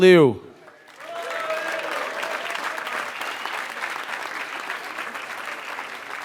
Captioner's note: applause